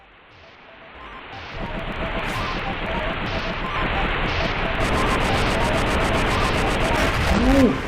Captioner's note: rumbling and electronic beeping